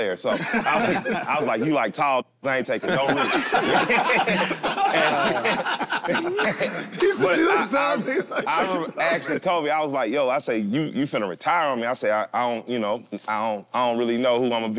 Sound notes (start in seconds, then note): 2.8 all laugh; 8.9 laughs